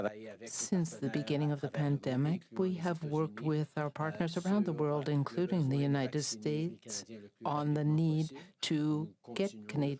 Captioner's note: speaking French